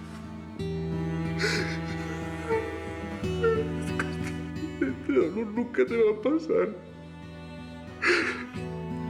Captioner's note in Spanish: llanto